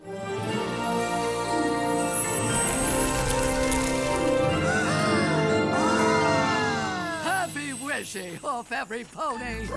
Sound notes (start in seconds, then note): 0.0 grandiose music; 4.6 all gasping